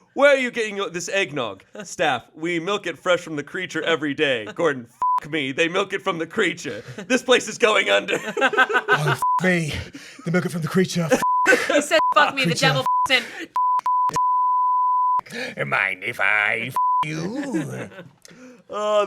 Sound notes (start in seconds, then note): 5.0 beep; 7.6 group laughing; 11.2 beep; 13.5 beeping; 13.5 beep; 16.7 beep